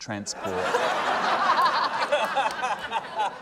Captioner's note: laughter